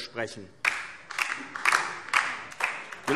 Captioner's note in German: Beifall DIE LINKE